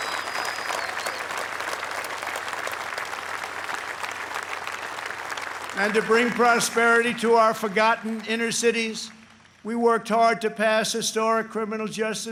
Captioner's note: applause